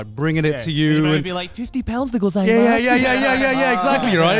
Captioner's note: speaks Japanese